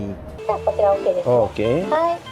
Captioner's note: speaking Japanese